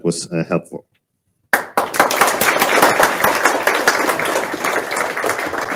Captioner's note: crowd applauding